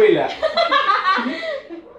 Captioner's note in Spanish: Risas